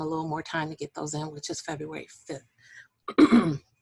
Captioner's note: clearing voice